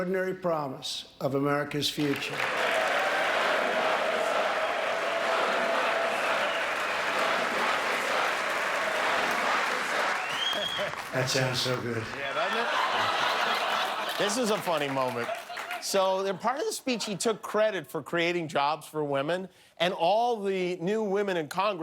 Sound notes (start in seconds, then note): 5.7 applause; 16.3 laughter